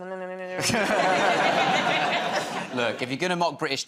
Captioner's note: laughter